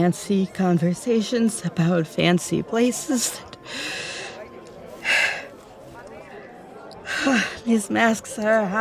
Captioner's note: rapid breaths